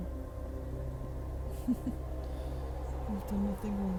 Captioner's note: small chuckle